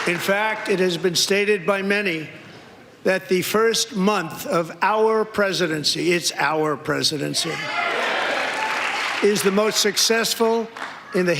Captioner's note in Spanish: aplausos